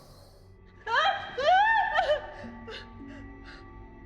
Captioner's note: Maggie screaming; gentle music